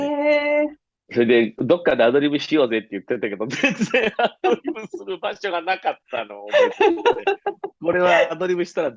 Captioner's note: laughter